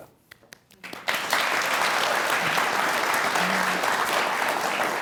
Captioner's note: audience clapping